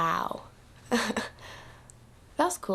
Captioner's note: chuckles